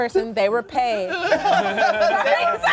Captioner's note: cast laughs